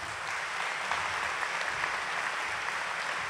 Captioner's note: applause